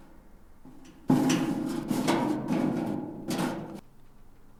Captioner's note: more loud noises from vent